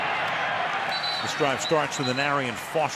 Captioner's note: whistle